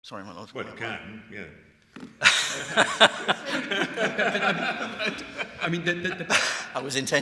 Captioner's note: laughter